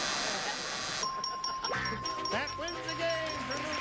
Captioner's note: buzzer; bell dinging